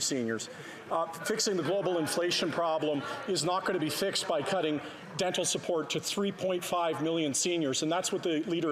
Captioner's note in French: voix de l'interprète